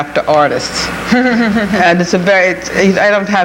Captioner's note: chuckles